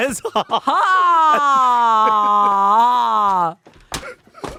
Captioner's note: laughing